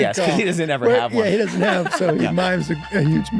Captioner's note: laughs